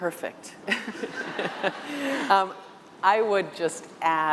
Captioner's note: laughter